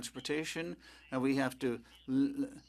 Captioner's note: speaking French